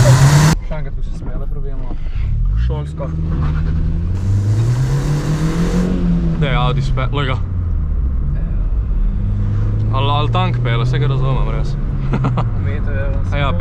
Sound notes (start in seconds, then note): 8.8 Shitty AUDI drives by like he doesn't care